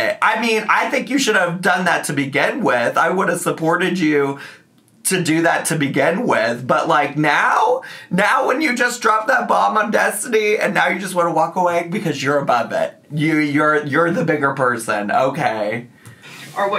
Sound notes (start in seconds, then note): none